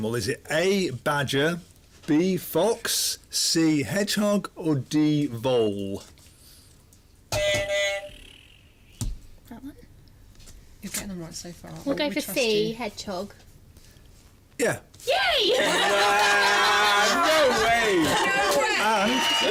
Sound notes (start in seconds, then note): 7.3 buzzer; 15.5 laughter